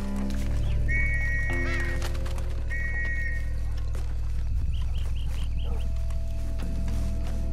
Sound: police whistling in the background

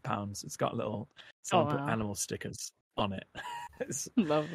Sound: laughs

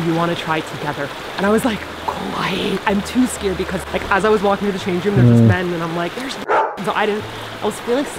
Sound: dog bark

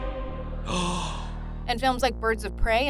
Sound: gasps

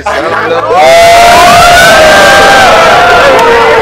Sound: cheering

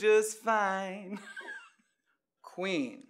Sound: laughs

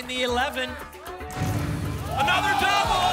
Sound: booms

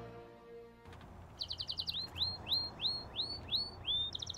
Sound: birds chirping

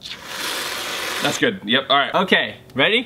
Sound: spray can hissing

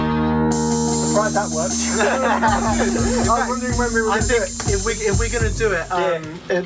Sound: laughter

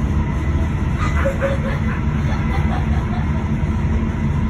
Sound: child laughing in the background

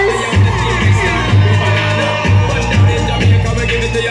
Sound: crowd Screams

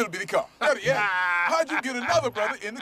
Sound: laughing

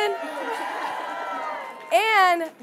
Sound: audience cheering

